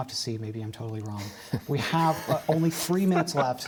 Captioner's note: laughter